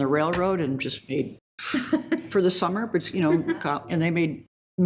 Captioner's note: exhales